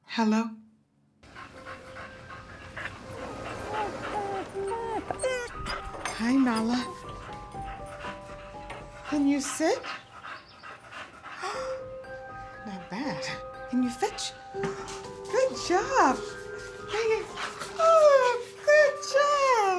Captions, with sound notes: Hello? [panting] [whining softly] Hi, Nala. Can you sit? [Beth gasps] Not bad. Can you fetch? Good job! Right here! Oh, good job!